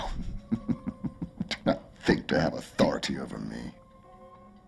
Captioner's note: laughing